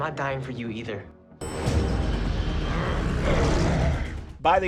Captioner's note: elevator bell and growling